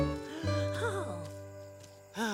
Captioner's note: sighs